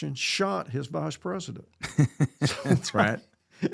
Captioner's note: laughing